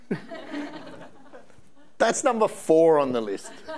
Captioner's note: audience laughing